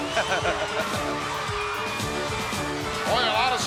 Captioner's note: laughs